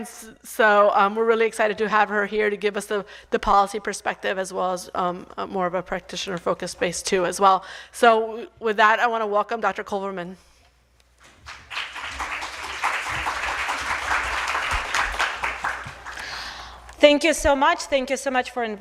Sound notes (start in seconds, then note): 9.0 applause